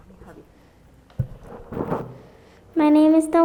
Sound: blowing microphone

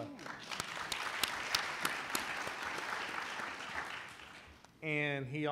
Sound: applauding

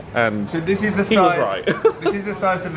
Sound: laughs

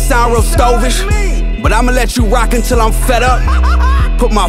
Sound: laughing

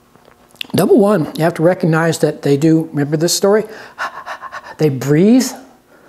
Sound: panting sound

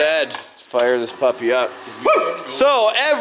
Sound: man cheers

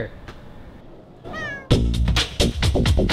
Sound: cat meows

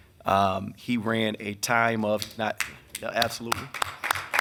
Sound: members clapping

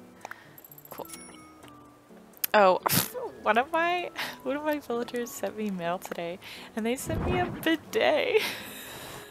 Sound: laugh

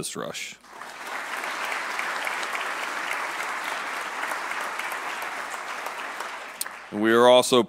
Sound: applause

